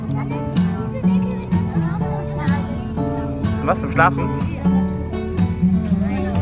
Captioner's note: speaking German; background music